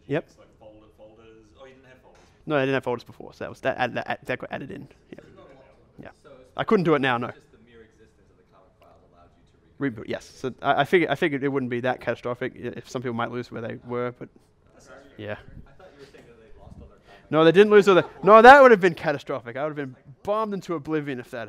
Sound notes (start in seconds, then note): 0.1 voiceover; 7.6 voiceover; 15.7 voiceover